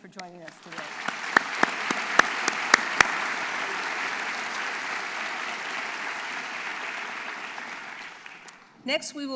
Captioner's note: applause